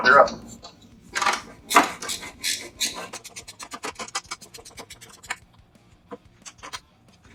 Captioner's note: wrench sounds